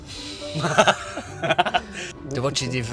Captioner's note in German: lacht in Zürcher Dialektsprache